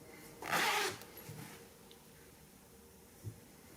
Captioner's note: zipper zipping